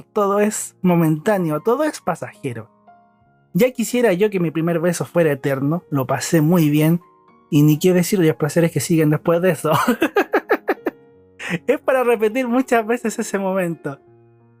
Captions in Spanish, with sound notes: todo es momentáneo, todo es pasajero ya quisiera yo que mi primer beso fuera eterno lo pasé muy bien y ni qué decir de los placeres que siguen después de eso (risas) es para repetir muchas veces ese momento